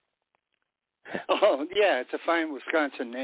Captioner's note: laughing